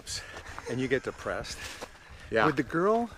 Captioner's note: Pete laughs